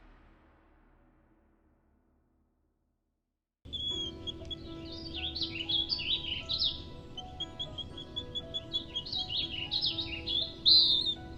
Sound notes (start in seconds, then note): 3.6 birds chirping; 3.6 gentle music